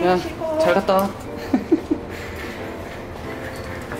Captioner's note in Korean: 웃음